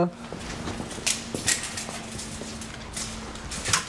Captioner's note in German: Der Meterstab klappert